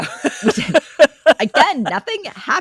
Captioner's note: both Laughing